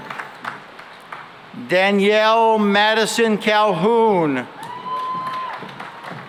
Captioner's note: cheering and applause